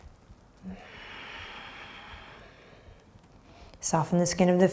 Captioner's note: breathing deeply